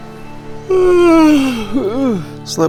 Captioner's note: yawn